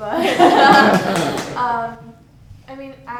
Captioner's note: laughter